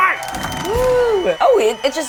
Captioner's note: cheering